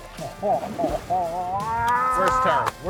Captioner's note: yells